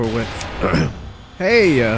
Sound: clears throat

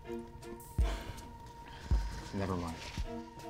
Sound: Cody sighs

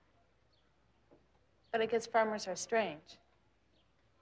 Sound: none

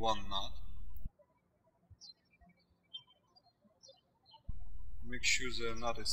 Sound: birds chirping

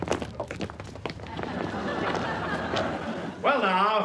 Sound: laughter

